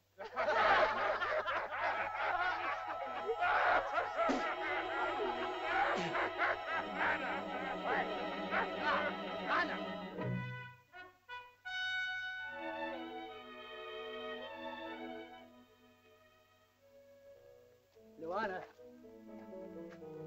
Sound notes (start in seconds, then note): 0.2 laughter; 4.2 child spits; 4.2 laughter; 11.6 soft music